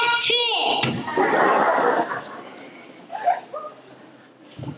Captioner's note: laughter